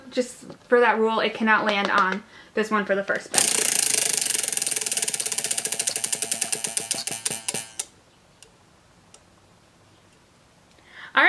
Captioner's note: wheel Spinning Noise